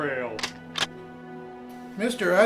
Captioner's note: gun cocks